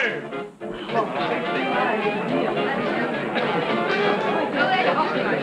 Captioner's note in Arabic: الناس يتحدثون بصوت خافت